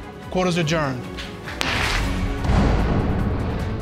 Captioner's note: gavel bangs